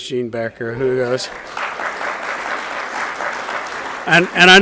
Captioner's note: audience applauds